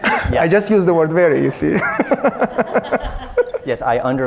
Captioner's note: audience laughing; laughs